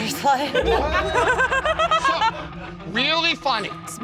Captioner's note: laughter